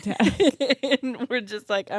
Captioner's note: laugh